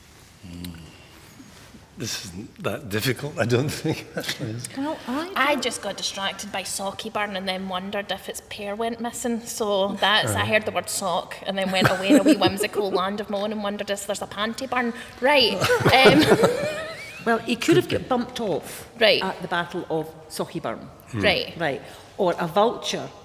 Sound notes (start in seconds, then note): 3.4 laughs; 15.5 laughter